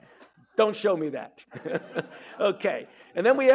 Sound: audience chuckling; chuckling

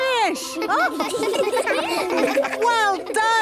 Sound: children laughing

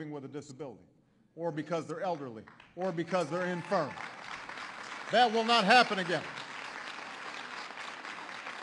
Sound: applause

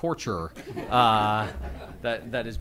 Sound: laughter

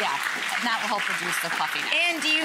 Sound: audience clapping

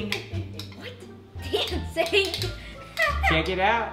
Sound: laughs

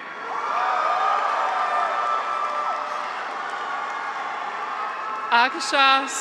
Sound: graduates cheer; audience applauds

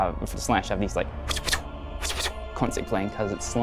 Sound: whoosing noises

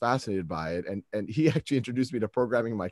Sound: laughs

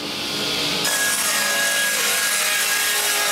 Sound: saw noise

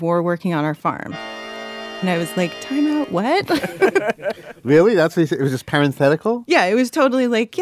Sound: laughs

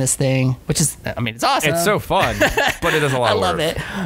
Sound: laughter

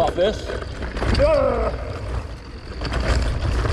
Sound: grunts; bike clatters

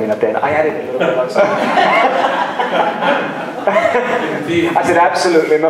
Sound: laughter

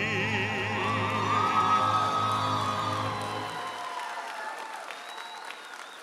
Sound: audience applauding and cheering

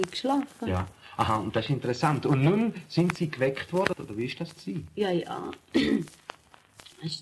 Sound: coughs

